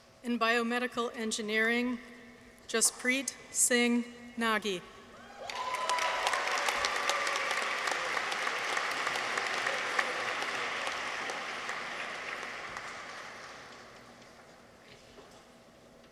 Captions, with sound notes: In Biomedical Engineering. Jaspreet Singh Nagi. -(audience applauds) -(people cheer)